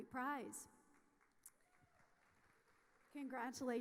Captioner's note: audience applauding